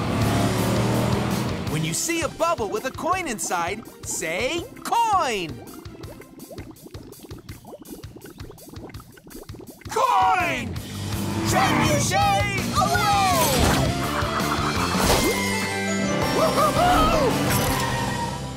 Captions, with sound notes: When you see a bubble with a coin inside, say "coin". Coin! Trebuchet away! [cheering]